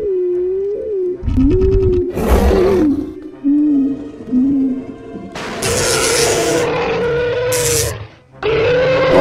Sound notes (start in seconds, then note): 5.4 crash and Buzz Sound